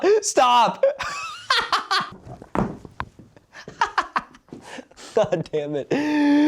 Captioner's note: exasperated laugh